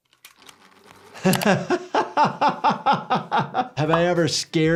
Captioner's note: doctor laughing